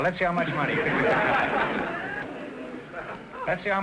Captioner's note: audience laughter